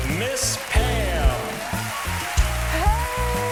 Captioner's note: crowd cheers